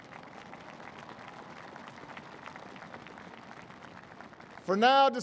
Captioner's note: applause